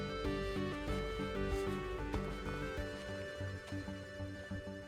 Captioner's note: footsteps